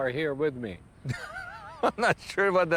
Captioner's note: laughs